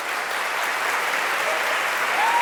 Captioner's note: applause